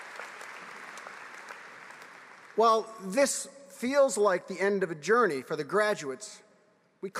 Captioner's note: applause